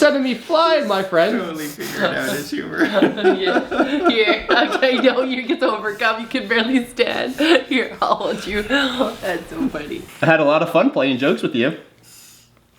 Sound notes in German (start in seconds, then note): 3.4 Papa lacht